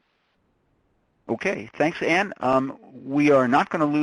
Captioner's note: voiceover